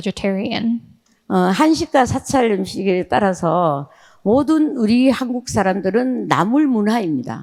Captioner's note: speaking in foreign language